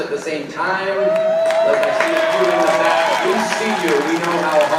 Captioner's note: audience applauding